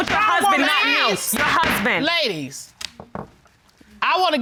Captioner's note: bangs gavel